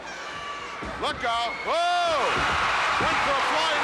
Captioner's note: audience cheering